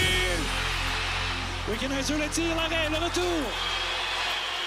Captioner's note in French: cris des spectateurs